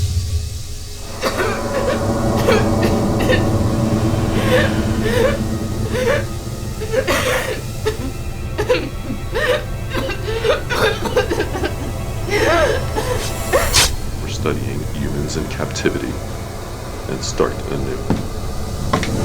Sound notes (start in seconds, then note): 1.2 coughing; 4.7 crying; 9.8 coughing; 12.9 blade slicing